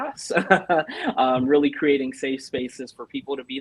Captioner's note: laughter